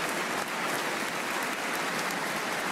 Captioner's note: applause